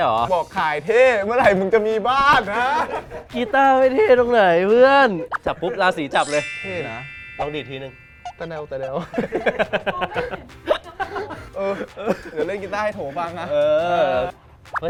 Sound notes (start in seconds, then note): 8.4 laughs